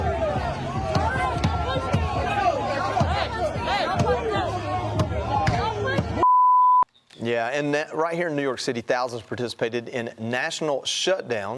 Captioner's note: chanting